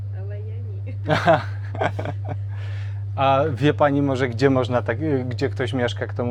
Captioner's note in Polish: śmiech